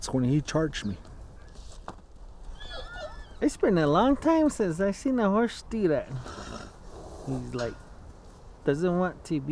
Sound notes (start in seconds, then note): 2.5 horse neighs; 6.2 horse chuffing